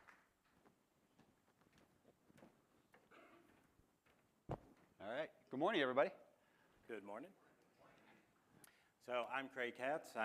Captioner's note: applause